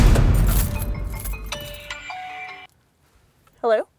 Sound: cell phone rings

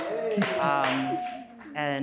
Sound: audience cheers

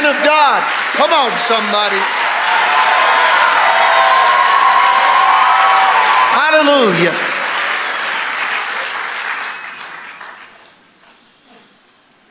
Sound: congregation cheering

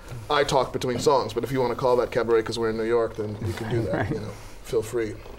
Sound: laughter

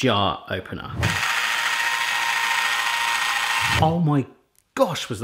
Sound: whirring

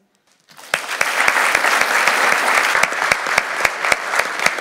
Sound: applause

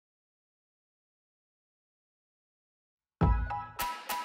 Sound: silence; upbeat music

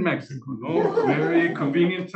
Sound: laughing

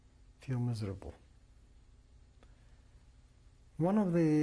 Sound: pauses for 3 seconds

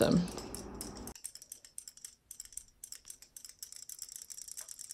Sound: toys clicking

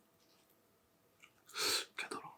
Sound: sighs

